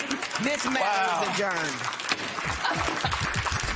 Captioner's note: applause